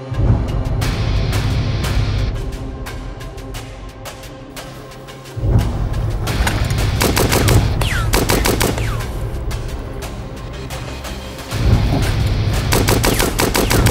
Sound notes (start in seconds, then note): 6.0 gunshots firing; 10.9 suspenseful music; 12.5 gunshots firing